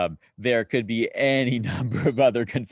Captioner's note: laughing